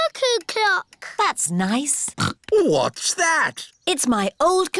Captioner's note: snorts